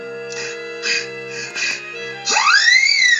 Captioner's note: panting